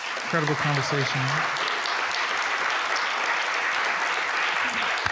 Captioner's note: applause